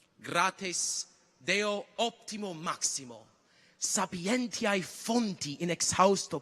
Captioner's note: continues to speak in Latin